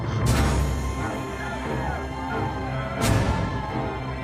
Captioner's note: people shouting